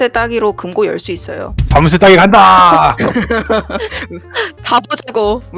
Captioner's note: laugh